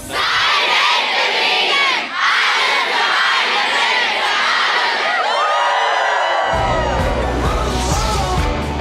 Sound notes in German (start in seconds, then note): 5.4 Jubel